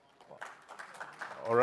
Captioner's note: applause